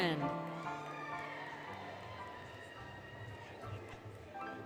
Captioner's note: applause, Cheering, Music